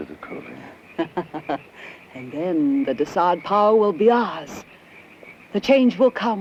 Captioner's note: laughs